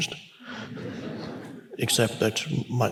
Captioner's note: congregation laughs